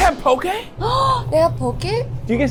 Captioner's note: gasps